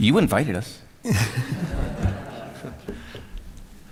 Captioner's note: laughter